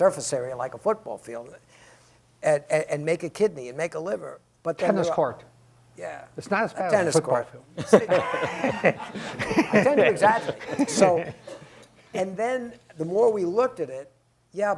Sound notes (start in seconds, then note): 7.8 laughing